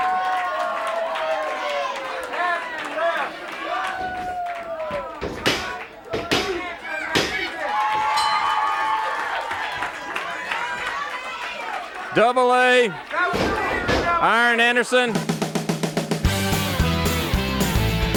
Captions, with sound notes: (hand slapping) (audience cheering) (bell rings) Double A Arn Anderson. (upbeat music)